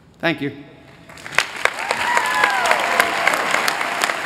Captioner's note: applause